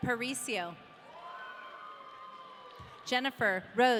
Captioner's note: audience cheering